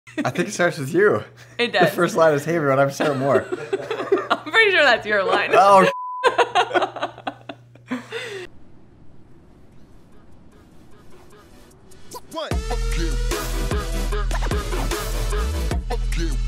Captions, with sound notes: - I think it starts with you. - It does. - The first line is, Hey everyone, I'm Sarah Moore. - I'm pretty sure that's your line. - Oh (beep). (intense electronic music)